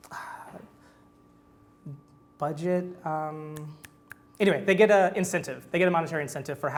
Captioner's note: sighs; snaps